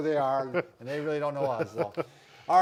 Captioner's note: laughing